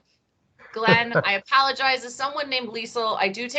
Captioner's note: laughs